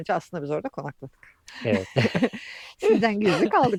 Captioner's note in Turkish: kahkaha